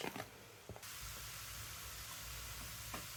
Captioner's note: sizzling